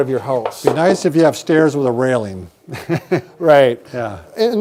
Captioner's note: laughs